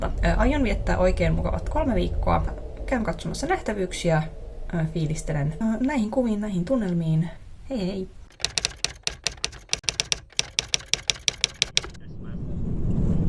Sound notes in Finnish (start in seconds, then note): 8.3 kirjoituskoneen naputusta